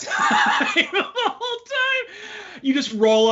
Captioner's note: all laughing